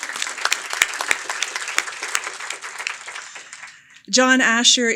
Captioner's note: applause